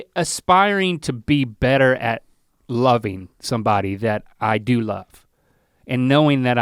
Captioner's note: none